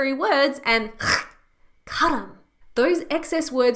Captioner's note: throat hacking